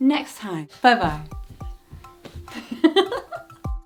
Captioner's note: chuckles